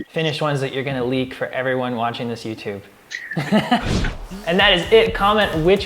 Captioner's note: both laughing